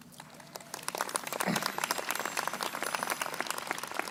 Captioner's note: crowd applauding